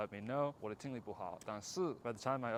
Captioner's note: Mandarin